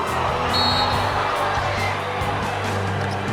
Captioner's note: whistle